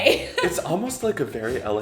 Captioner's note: laughing